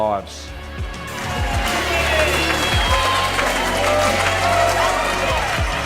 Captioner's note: people clapping and shouting